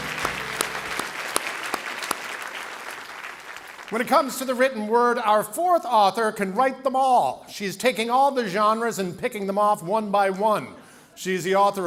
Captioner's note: applause